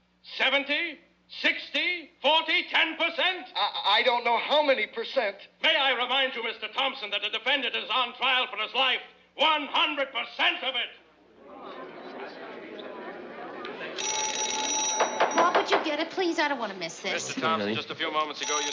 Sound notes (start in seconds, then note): 11.2 audience murmurs on tv; 13.8 phone ringing; 15.0 judge bangs gavel on tv